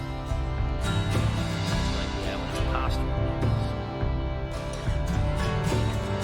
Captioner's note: quietly